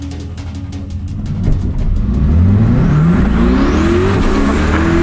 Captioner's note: car revs loudly